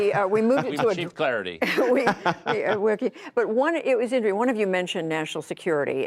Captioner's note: laughter